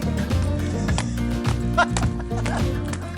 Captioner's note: laughter